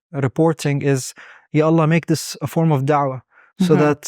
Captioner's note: speaking Arabic